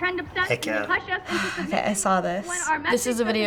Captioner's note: sighing